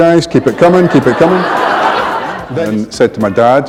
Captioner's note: laughter